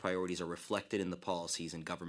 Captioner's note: speaking French